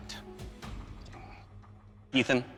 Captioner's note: sighs